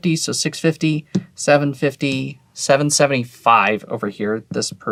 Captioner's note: tapping table